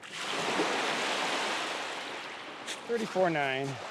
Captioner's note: waves crashing